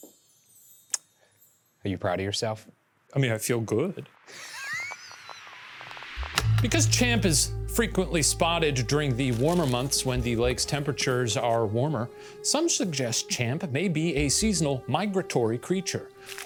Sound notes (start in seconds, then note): 4.3 chuckles